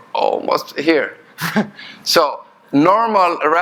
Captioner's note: chuckling